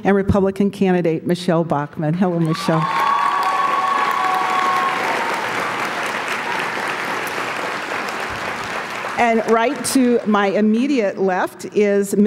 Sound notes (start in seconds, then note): 2.1 applause; 3.9 cheers & Applause~